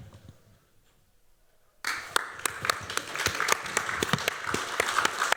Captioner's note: applause